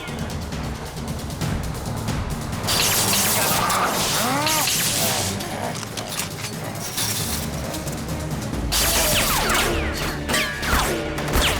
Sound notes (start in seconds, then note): 1.8 electricity crackles; 3.0 growling; 8.7 gunfire